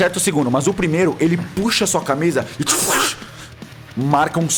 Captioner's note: cut sound